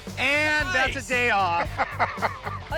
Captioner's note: laughter